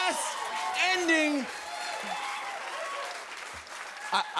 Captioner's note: cheers and applause